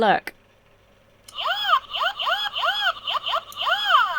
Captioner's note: toy whoops